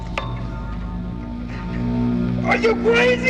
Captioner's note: machine humming